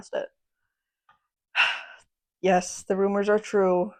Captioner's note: sigh